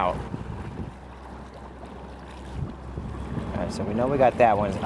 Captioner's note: water splashing